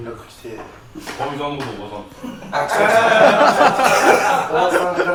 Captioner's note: laugh